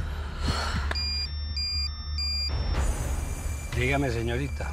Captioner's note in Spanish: Suena el celular